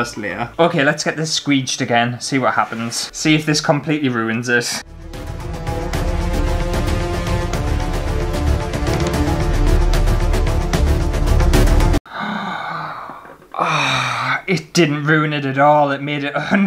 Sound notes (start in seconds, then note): 4.8 dramatic Classical Music; 12.0 gasps